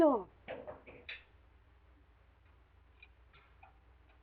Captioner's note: knocking in door